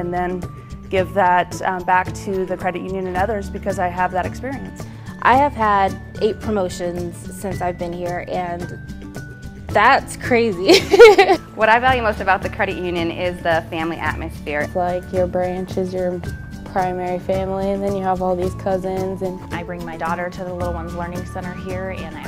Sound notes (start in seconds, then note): 10.8 laughs